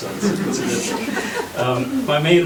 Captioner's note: laughter